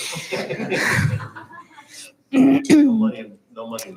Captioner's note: chuckling